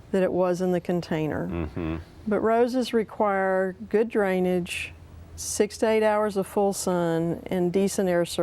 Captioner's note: mhmmm